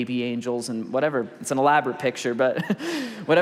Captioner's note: laughs